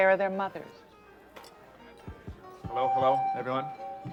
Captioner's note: tapping on microphone; on microphone